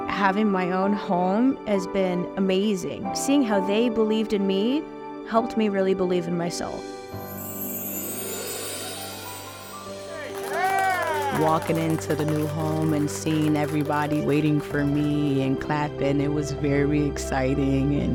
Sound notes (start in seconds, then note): 7.2 chimes play; 10.7 people cheering and applauding